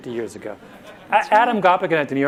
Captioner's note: audience laughter